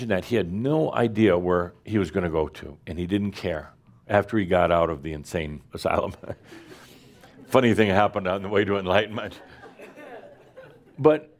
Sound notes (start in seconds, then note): 6.1 Adamus chuckles; 9.4 some chuckles